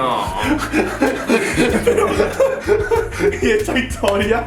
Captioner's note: they laugh